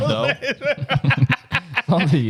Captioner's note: laughing